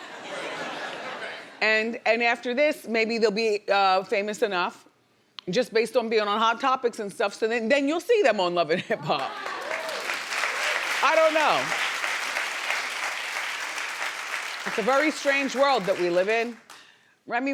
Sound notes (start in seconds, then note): 10.1 audience applauding